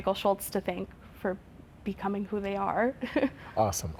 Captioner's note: chuckles